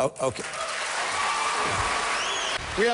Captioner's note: applause